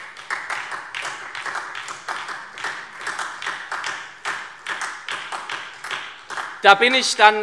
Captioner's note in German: Beifall SPD